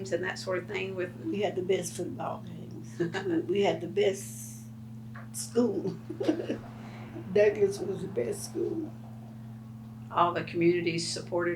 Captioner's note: laughs